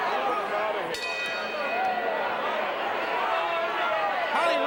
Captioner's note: ring bell clanging